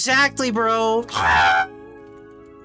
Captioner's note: screech